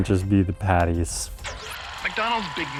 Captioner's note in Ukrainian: вмикається кінопроектор